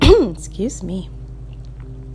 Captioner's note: clears throat